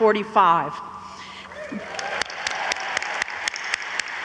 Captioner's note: audience applauds